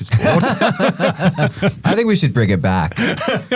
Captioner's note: both laughing